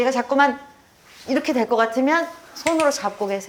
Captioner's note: slipping